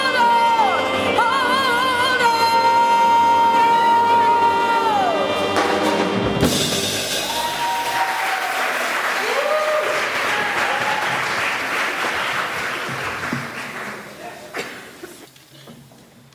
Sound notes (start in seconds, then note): 7.3 applause